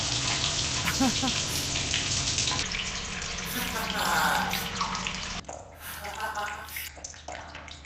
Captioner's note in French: Rires